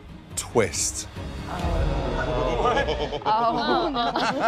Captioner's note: murmuring